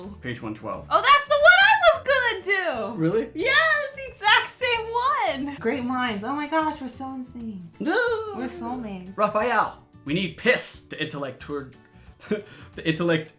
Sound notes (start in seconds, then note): 5.9 makes an excited noise; 12.3 chuckles